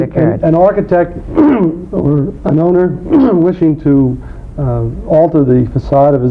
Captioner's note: clearing throat